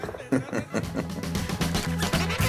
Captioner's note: laughs